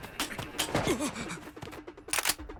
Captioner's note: gasps